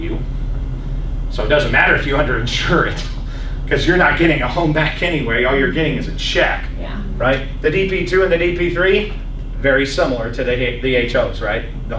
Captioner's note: laughs